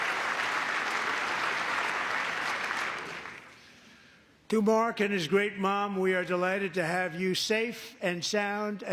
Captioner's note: cheering; applause